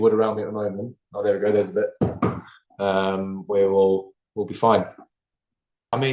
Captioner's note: knocks twice